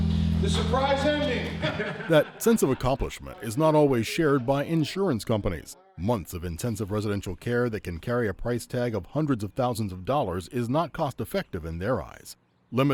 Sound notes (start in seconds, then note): 1.3 laughing